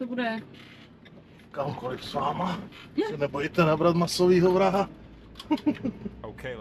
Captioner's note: laughs